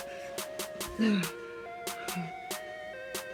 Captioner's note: exasperated grunting